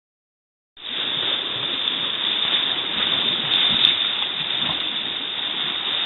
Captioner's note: waves lapping